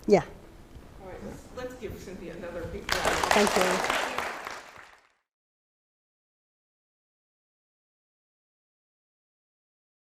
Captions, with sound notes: Yeah. All right, let's give Cynthia another big round of applause. Thank you. [APPLAUSE]